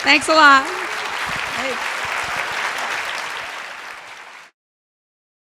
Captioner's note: audience clapping